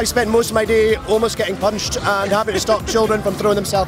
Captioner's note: laughs